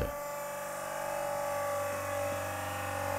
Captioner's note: whirring